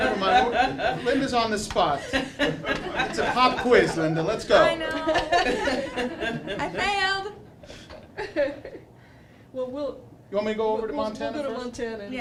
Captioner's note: more Laughter; laughter